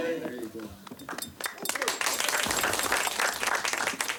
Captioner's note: all clapping